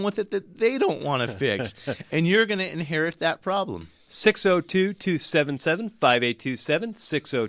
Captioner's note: laughs